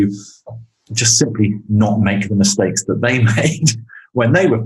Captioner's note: laughs